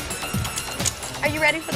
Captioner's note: belt clicking